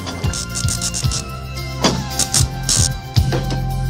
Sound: electrical noise

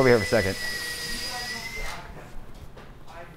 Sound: wood saw grinding; people talking

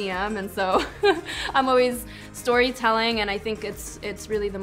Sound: laughs

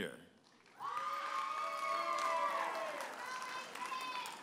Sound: audience applauding and cheering

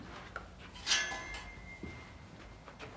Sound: metal clanking

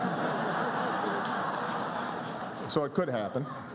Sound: laughter

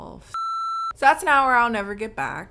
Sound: beep

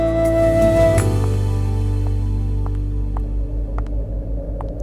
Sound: footsteps approaching

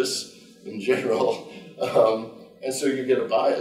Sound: chuckling

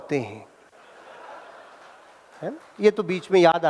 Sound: laughing

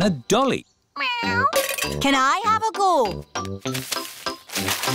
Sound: meows

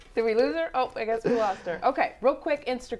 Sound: laughing

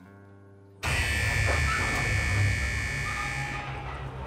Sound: alarm buzzing

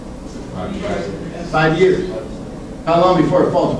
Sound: class mumbles

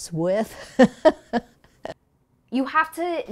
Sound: laughter

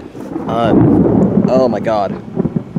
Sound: thunder booming

